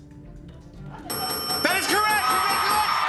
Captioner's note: dinging; cheers and applause